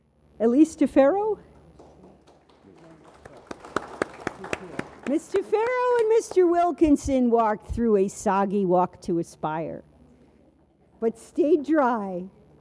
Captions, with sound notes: Elise Tafaro. (audience applauds) Ms. Tafaro and Mr. Wilkinson walked through a soggy Walk to Aspire. But stayed dry.